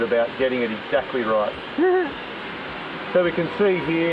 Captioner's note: chuckles